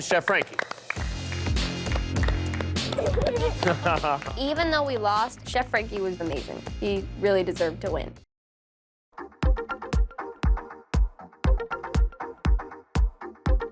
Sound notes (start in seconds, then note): 1.9 applause; 2.9 laughter